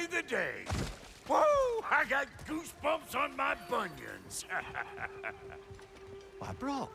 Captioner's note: laughs